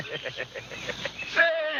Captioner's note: chuckling